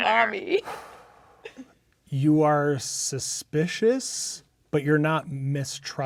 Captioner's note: exhales